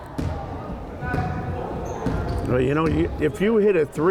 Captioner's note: crowd chattering